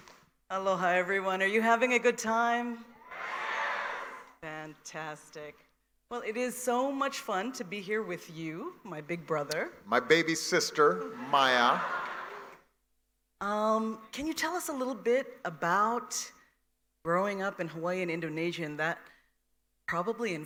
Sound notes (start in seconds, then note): 1.4 cheers and applause